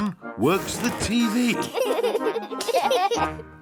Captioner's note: laughter